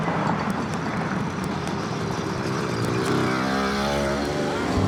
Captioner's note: motorbike revving